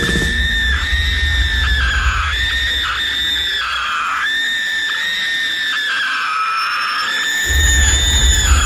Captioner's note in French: Extrait de "Lola Rent": Cris strident